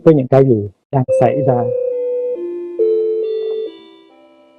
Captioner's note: clock chiming